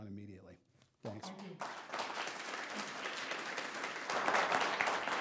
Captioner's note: applause